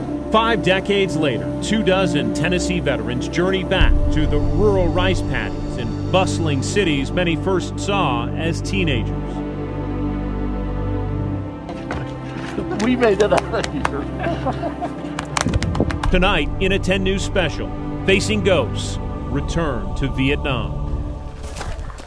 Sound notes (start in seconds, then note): 14.2 laughing